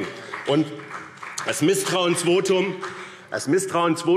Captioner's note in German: Vereinzelter Beifall BÜNDNIS 90/DIE GRÜNEN